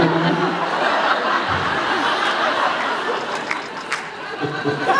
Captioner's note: laughs